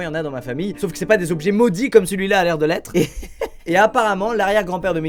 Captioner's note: laughs